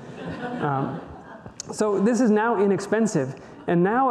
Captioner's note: audience laughter